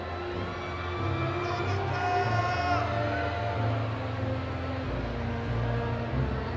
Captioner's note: audience cheering